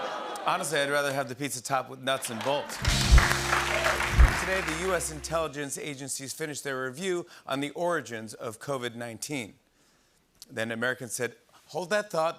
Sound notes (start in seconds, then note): 2.2 applause